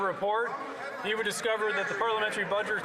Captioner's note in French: voix de l'interprète